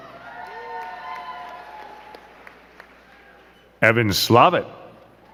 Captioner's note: crowd cheering and clapping